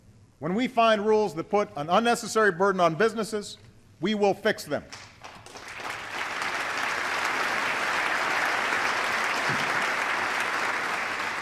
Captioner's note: applause